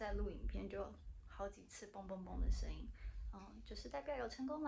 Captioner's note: boom boom boom